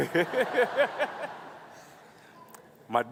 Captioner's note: laughing